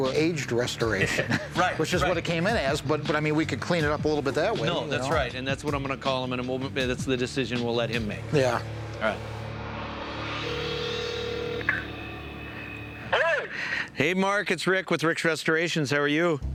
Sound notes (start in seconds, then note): 10.4 dial tone; 12.4 on phone